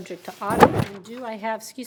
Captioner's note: microphone thumps